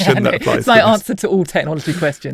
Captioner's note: chuckles; laughs